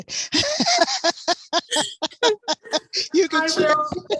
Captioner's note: laughter